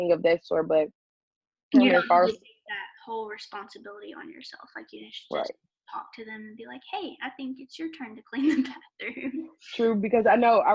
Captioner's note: laughs